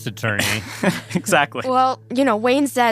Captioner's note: laughs